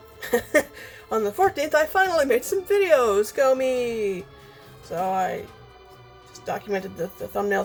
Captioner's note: laughing